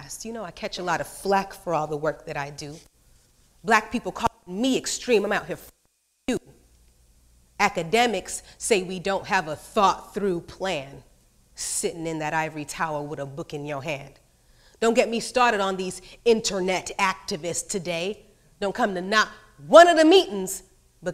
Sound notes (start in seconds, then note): 6.0 speaks off microphone